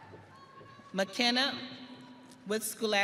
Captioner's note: audience cheering